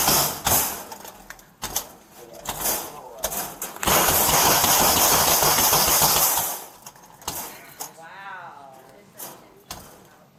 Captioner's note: banging on door; banging on door; banging continues